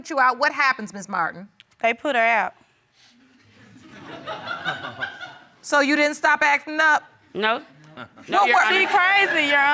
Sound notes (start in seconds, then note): 3.4 audience laughing